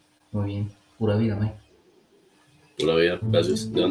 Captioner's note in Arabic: عامية كوستاريكية